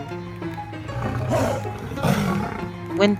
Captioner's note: roars